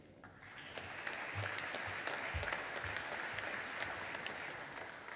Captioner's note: audience applauding